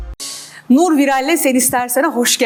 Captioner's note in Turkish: none